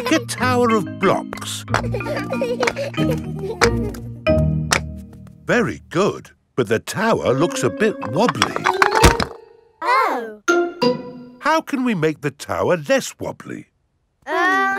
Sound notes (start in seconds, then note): 1.4 children laughing